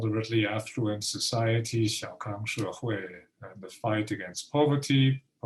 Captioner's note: speaking Mandarin